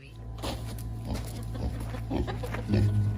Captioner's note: Leo oinking; gentle music